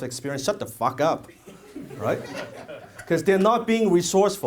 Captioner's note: audience laughs